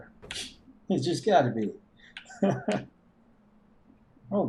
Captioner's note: laughs softly; chuckles